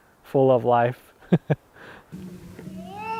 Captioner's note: chuckles